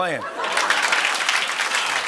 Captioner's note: laughter and applause